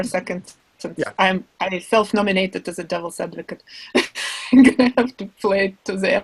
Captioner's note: laughs